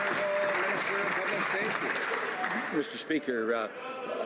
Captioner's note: some Applause